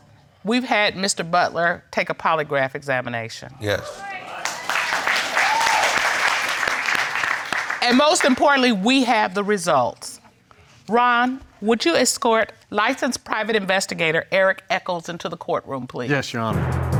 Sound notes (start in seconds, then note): 4.1 audience applauding